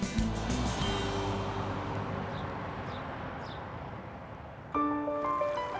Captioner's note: lively music continues; car whooshing; birds chirping; light music; water burbling